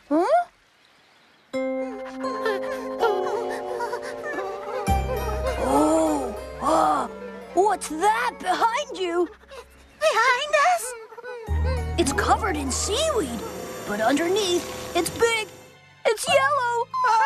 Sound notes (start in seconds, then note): 2.2 whimpering